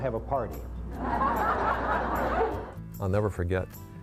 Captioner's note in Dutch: publiek lacht